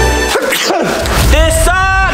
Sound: fantasy music; sneezing

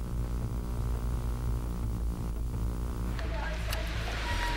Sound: static humming

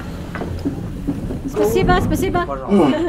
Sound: speaking in Russian

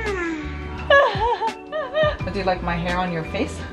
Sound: laughing

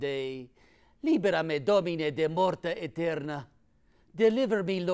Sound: speaking in foreign language

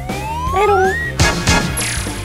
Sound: boo

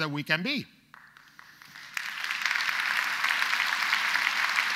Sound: audience applauds

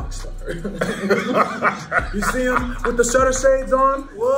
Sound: laugh

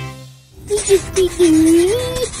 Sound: various cartoon sound effects; scratching sound effect; sings gibberish

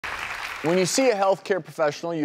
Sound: clapping

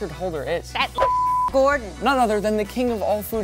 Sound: beep

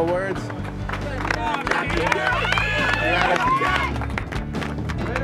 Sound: on-lookers cheering

